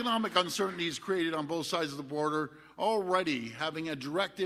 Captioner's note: applause